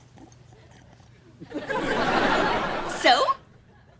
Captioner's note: audience laughter